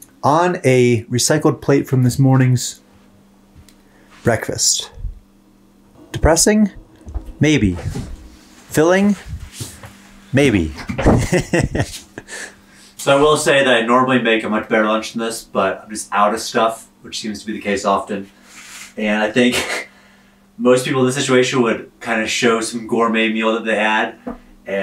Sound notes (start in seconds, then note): 10.8 laughs